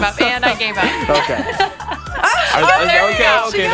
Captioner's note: laughing